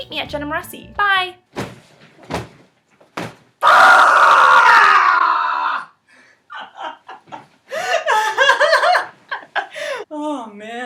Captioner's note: rage Screaming; laughing